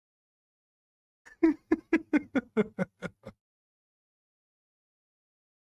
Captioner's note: Ketawa